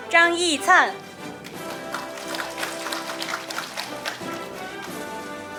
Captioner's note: audience applauding; orchestral music